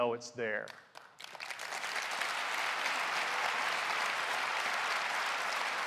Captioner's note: applause